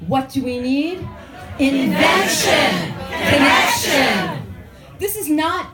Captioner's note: crowd chants